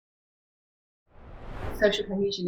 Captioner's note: screen swooshing